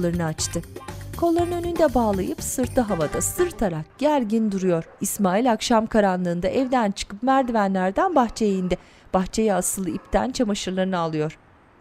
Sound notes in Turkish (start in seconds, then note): 4.3 Köpek havlama sesi